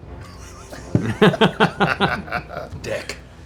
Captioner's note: laughter